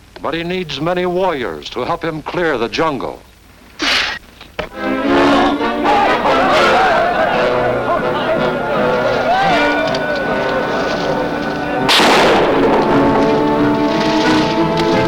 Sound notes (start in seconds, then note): 3.8 whistle; 11.8 gunshots